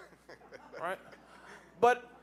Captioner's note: audience laughing